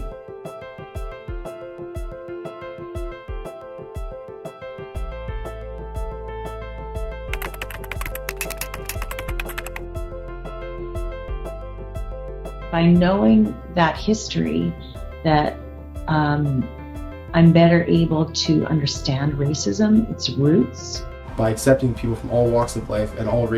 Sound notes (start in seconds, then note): 0.3 light piano music; 7.5 clicking